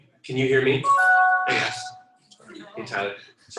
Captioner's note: electronic chiming